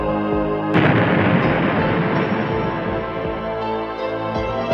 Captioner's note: explosion booming